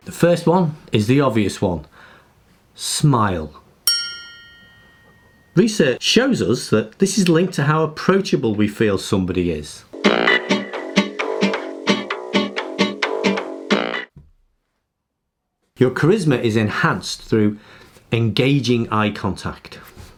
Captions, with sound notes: The first one is the obvious one. Smile. (bell dings) Research shows us that this is linked to how approachable we feel somebody is. (upbeat music) Your charisma is enhanced through engaging eye contact.